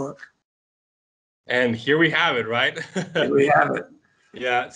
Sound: laugh

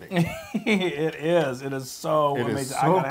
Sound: laugh

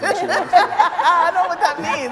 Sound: laughing

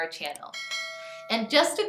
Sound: bell clangs

